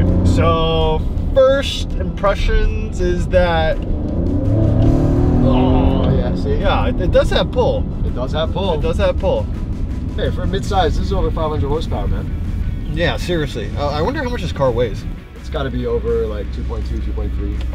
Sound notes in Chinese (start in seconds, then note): 4.5 發出很爽的聲音